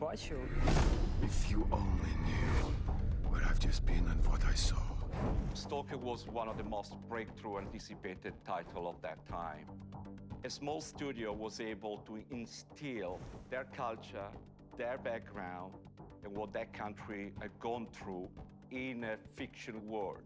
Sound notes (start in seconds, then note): 4.5 speaking English